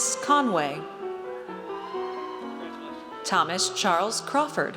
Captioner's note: audience cheers